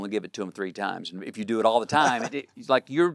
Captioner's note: chuckles